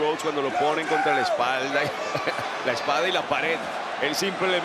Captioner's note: laugh